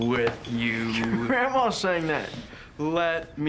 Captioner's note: laughs